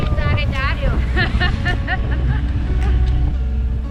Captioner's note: laughter